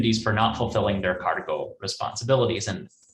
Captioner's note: speaks in foreign language